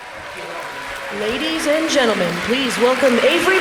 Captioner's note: applause